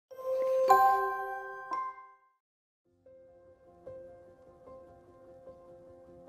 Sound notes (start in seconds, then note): 0.2 bright chiming; 3.0 reflexive music